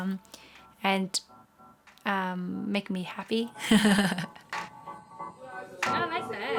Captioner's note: laughs